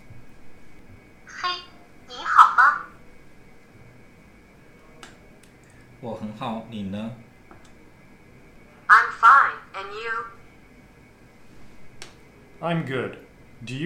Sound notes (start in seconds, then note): 1.2 translator device speaking in foreign language; 5.9 speaker 2 speaking in foreign language